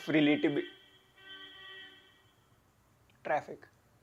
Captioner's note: horn